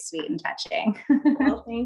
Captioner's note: giggling